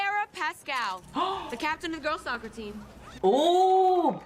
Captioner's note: gasps